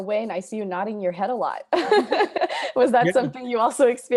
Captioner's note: laughs